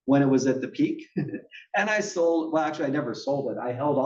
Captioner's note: laugh